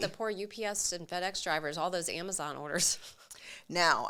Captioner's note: chuckles